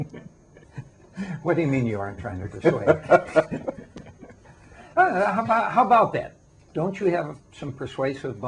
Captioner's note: laughter; more laughter